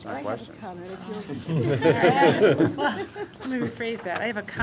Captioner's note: laughter